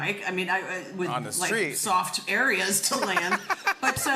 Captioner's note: laughter